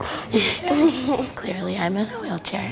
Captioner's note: both laugh